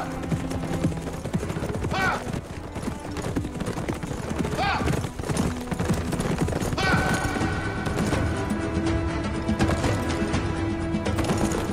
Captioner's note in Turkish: Nal sesleri